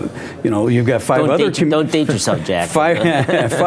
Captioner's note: chuckling